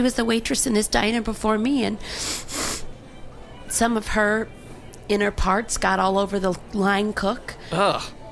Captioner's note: sniffs